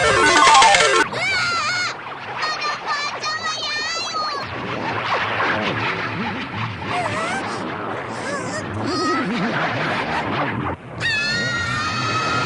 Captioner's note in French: bruit de victoire de machine à sous; bruits glauques de tentacules